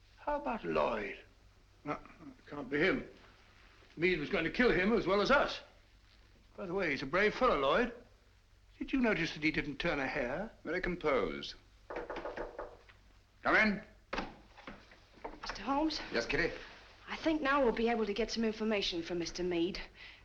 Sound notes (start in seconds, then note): 11.8 knocking